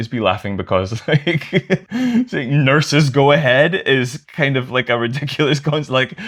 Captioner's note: laughter